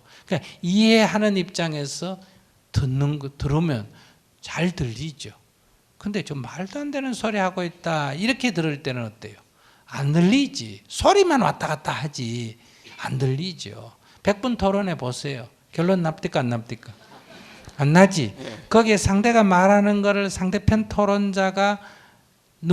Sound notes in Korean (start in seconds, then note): 17.0 청중 웃음